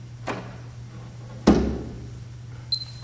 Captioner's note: inhales deeply; piano cover thuds; stopwatch beeps